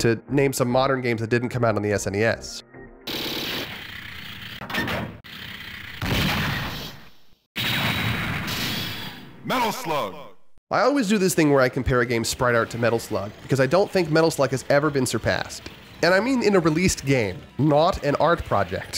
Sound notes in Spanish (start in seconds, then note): 3.1 sound effects; 6.0 sound effects